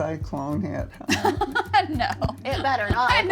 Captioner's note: laughs